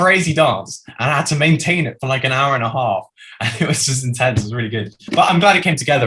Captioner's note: laughs